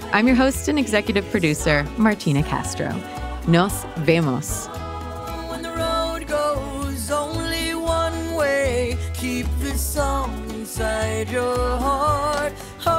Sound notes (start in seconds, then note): 3.5 speaks in foreign language